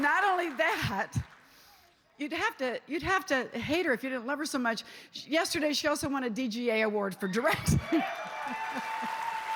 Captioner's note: cheers and applause